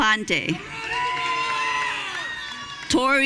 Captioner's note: audience cheering